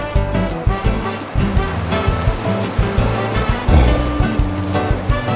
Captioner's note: zombie walking